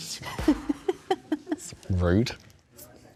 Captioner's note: laughter